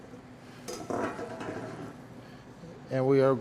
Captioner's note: object clattering